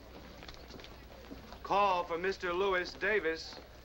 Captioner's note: voiceover